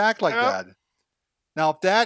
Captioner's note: groans